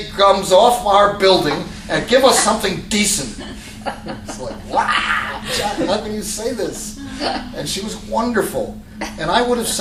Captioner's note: laughter